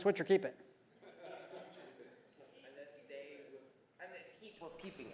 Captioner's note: laugh